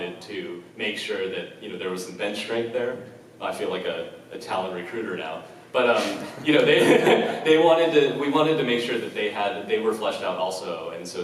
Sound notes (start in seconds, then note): 6.0 laughs